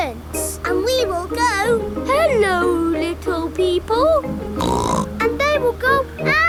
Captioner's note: snorts